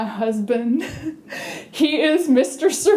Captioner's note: chuckle